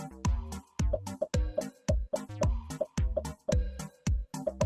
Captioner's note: upbeat music; popping